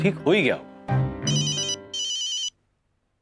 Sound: phone rings

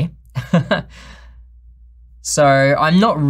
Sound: chuckles

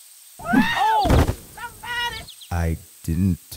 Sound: screams; birds chirping; body thuds; rollerskate thuds

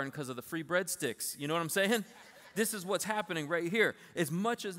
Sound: laughter

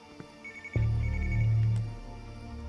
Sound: phone ringing

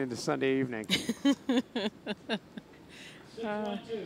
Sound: laughing

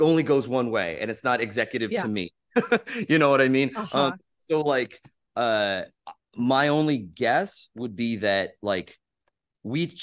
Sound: laugh

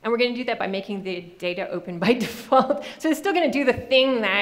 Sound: laughing

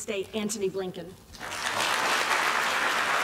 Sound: applause

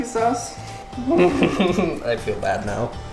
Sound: laughs

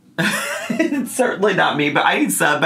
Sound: laughs

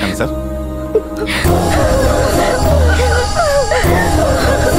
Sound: crying

